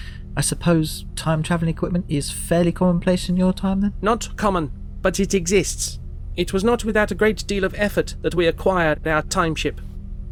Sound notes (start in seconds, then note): none